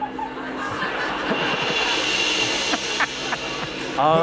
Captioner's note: laughter